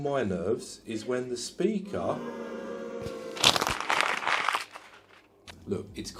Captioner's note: audience boos